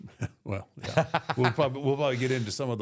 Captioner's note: Michael laughs